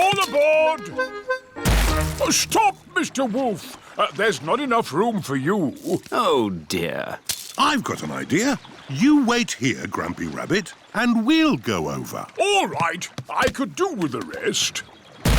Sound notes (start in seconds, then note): none